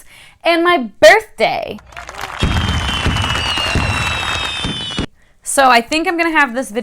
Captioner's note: cheers & fireworks sounds